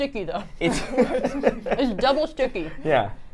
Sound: laugh

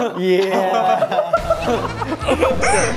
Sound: laughing

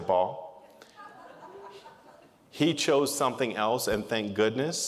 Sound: laughter

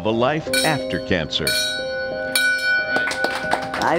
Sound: bell rings; applause

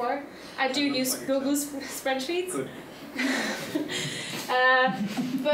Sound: chuckling

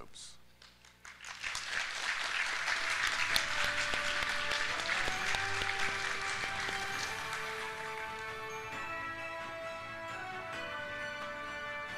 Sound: applause

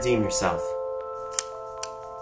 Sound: gun cocks

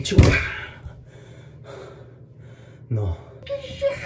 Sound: breathing Breathing

